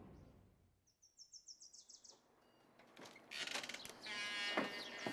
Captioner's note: birds chirping